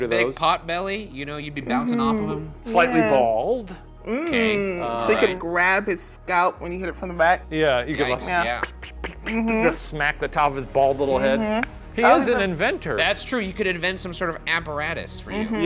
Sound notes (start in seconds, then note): 4.1 humming; 8.5 imitating hand smacking